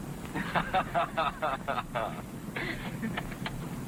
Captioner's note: chuckling